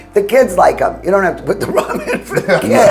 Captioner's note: chuckles